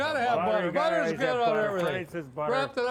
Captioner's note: muttering